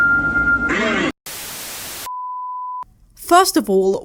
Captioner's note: static